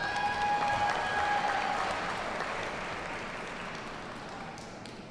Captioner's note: audience cheers and applauds